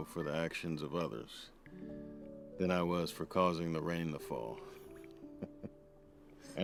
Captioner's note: laughs